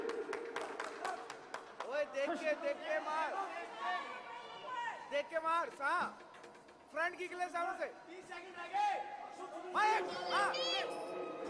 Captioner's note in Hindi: तालियां